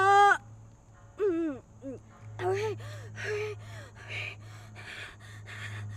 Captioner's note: panting